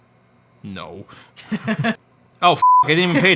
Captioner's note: laughs; beep